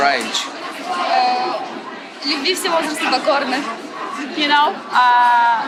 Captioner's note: speaks ukrainian